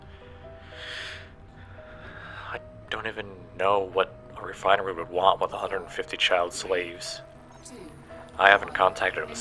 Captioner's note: sigh